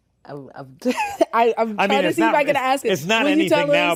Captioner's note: laughs